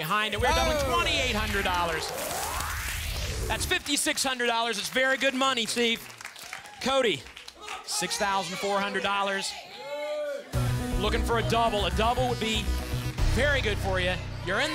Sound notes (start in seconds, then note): 6.1 audience applause